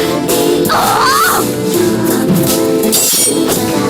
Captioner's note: roaring